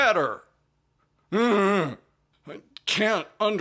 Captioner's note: groans like a wounded wildebeest